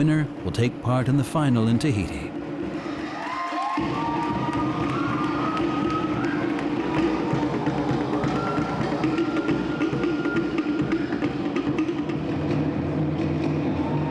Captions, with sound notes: The winner will take part in the final in Tahiti. -[drums beating] -[cheering and applause]